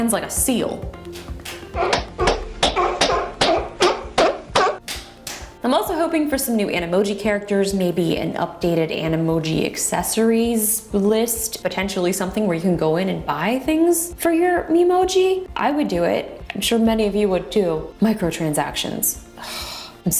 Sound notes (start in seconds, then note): 1.6 seal barking; 4.8 clapping